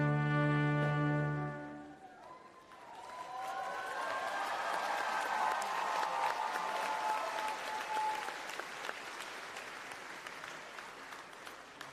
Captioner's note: applause and Cheering